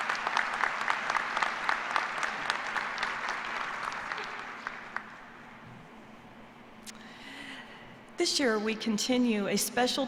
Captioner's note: applause